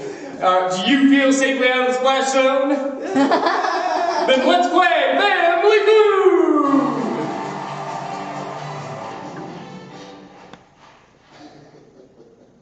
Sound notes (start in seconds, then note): 3.2 laughter and cheers; 7.6 "Family Feud" plays on the tv